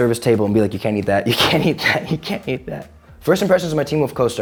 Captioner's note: laughing